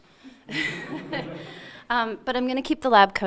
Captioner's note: audience laughing